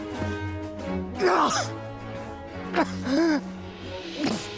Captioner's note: George groaning